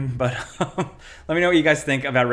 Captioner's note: chuckles